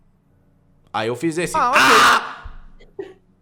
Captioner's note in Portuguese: aaah!